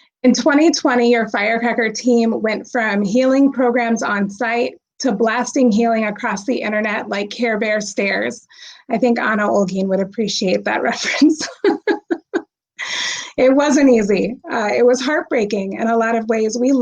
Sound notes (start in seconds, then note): 11.3 laughs